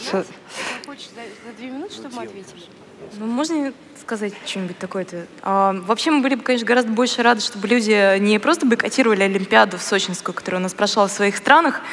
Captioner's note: foreign Language